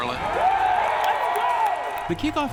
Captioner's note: crowd cheers